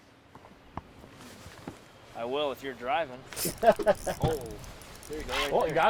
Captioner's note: laughing